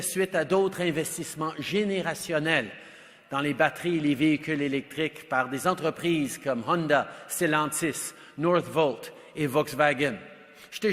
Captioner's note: speaks French